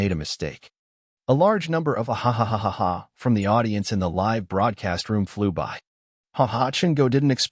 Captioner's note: hahahahaha